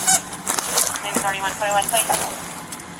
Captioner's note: radio chatter